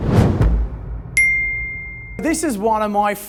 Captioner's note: whooshing jingle